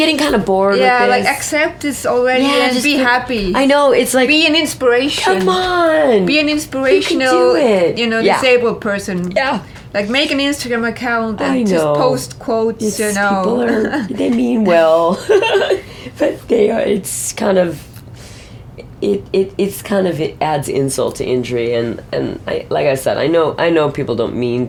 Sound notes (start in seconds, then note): 14.7 laughs